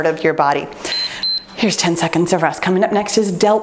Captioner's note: timer beeps